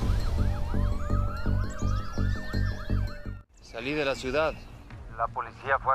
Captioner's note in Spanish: sirena de patrulla